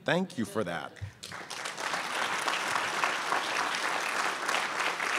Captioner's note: crowd applauds